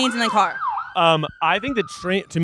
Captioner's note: siren sounding